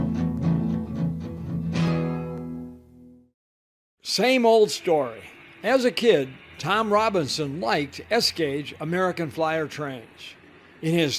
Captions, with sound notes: - [Voiceover] Same old story. As a kid, Tom Robinson liked S gauge American Flyer trains.